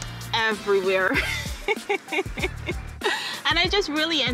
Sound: laughter

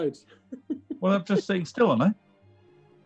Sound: giggling

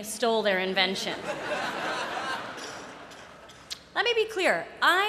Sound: laughter

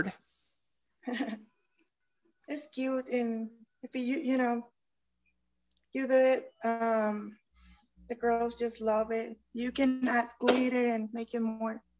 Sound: chuckles

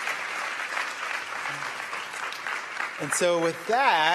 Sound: applause

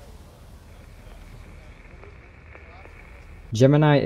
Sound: radio static

